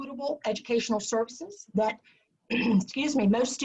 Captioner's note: coughs